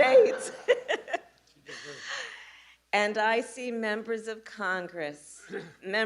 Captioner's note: laughter